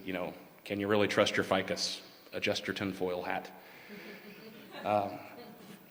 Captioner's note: laughter